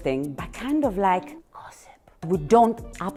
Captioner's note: whispers